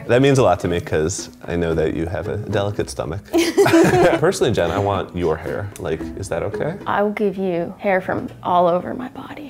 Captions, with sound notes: - That means a lot to me 'cause I know that you have a delicate stomach. (all laughing) Personally, Jen, I want your hair. Is that okay? - I will give you hair from all over my body.